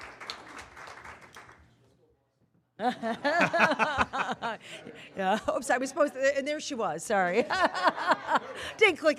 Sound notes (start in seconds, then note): 0.0 cheers and applause; 1.0 laughter